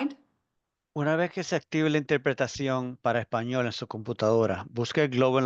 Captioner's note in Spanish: intérprete hablando español